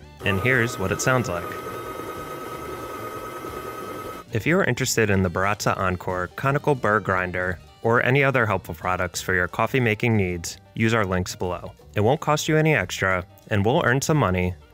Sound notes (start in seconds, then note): 2.1 machine whirs